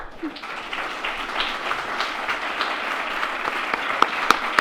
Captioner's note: audience applauds